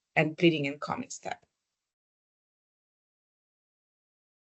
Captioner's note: silence